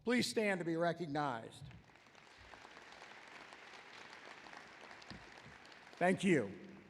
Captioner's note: applause